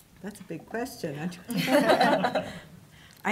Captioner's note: laughter